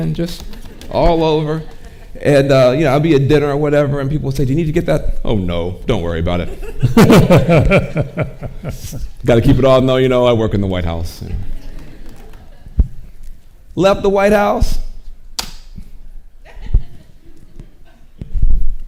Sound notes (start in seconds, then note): 6.5 and woman chuckles; 11.2 audience chuckling